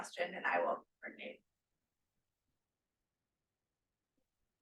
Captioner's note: speaking faintly